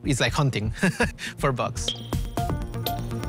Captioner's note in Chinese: 笑聲